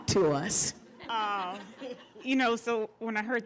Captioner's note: laughter